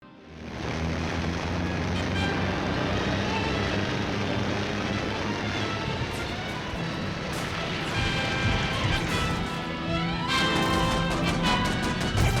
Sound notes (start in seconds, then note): 0.8 dramatic music; 0.8 engines roaring; 10.2 guns firing